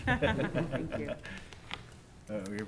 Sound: laughter

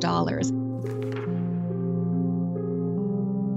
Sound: slide flips; gentle music

